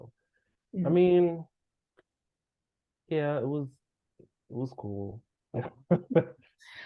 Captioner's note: laughs